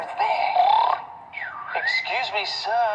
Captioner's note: snoring whistle